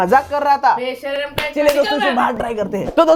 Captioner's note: mother talking